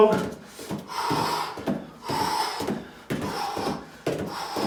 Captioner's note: exhales sharply